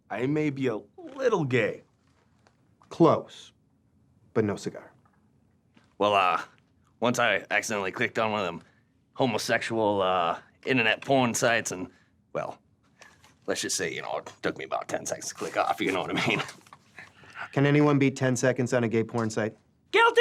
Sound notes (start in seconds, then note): 15.3 laughs